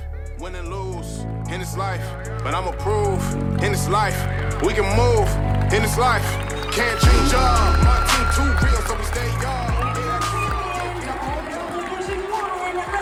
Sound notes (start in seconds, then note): 8.6 team and audience cheering